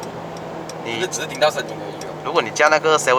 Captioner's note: just hear the engine sound